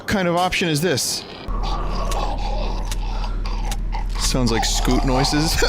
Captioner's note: gurgling